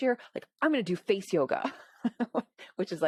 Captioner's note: laughs